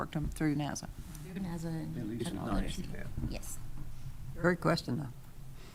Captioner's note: speaking quietly